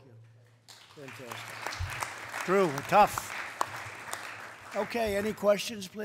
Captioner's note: applause